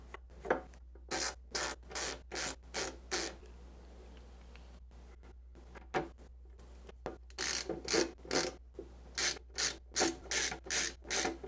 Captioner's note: ratchet noises